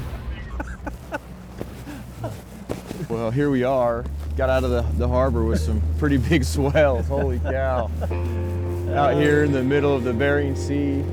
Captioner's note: laughing